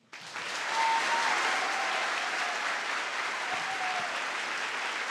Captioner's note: audience applauds